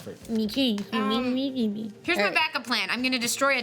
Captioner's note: murmuring